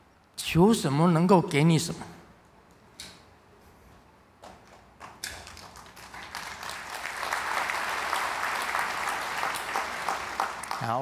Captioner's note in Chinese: 眾鼓掌